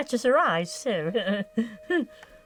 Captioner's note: laughs